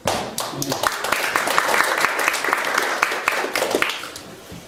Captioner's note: audience applauding